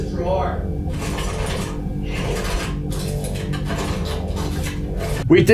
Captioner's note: more rummaging and clattering